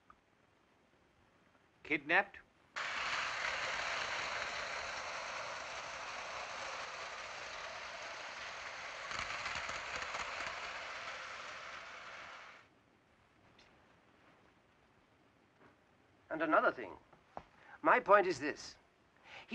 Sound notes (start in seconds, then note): 2.7 toy train whirring